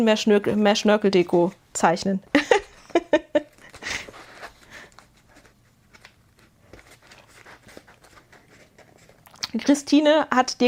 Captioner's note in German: gelächter